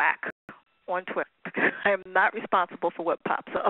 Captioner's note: laughter